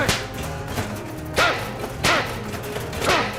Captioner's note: shouting; shovel clangs